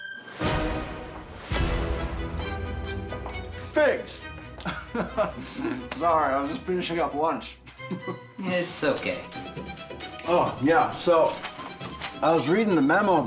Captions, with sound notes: - Figs (laughing)! Sorry, I was just finishing up lunch. - It's okay. - Oh yeah, so I was reading the memo